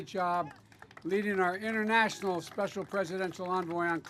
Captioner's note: applause